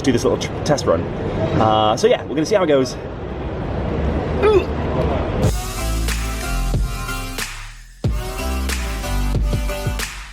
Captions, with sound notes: when we just do this little test run. So yeah, we're gonna see how it goes. (grunts) (upbeat music)